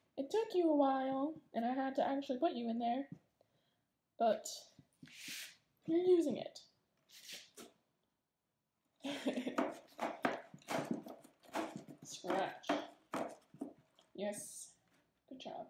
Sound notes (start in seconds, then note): 9.0 giggle